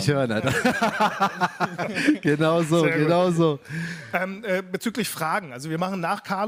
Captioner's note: laughter